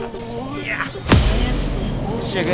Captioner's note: bam